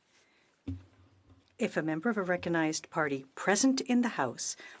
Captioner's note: speaking French